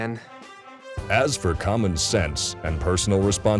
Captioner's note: voiceover